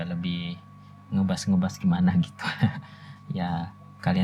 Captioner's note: laughs